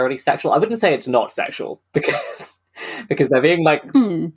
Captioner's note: laughing